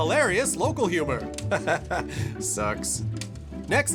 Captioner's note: laughs, pronounces incorrectly